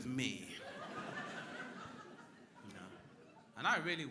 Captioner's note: crowd laughing